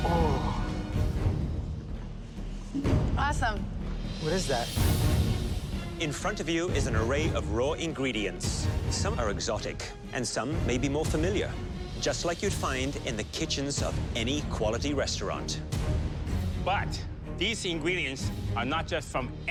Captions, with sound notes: (groaning) - Awesome. - What is that? - In front of you is an array of raw ingredients. Some are exotic and some may be more familiar. Just like you'd find in the kitchens of any quality restaurant. - But these ingredients are not just from